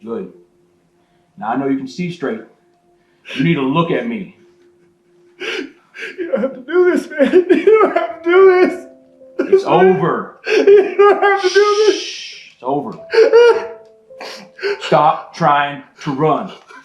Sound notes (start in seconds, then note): 4.8 sobs; 12.8 sobs; 13.1 somber music